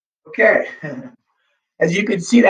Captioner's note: laughs